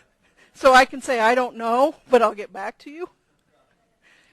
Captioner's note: laugh